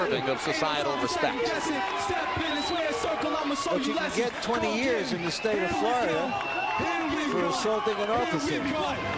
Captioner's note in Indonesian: Tepuk tangan